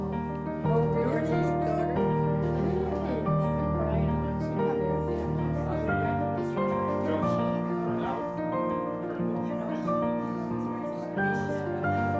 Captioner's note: background chatter